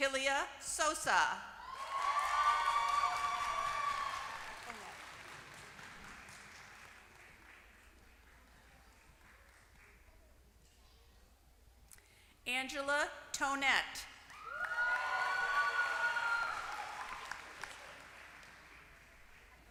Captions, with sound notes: Thalia Sosa [APPLAUSE]. Angela Tonet >> [APPLAUSE]